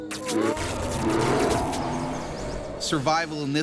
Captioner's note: bear growling